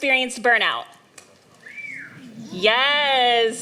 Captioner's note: whistles